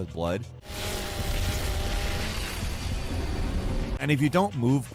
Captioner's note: chainsaw whirring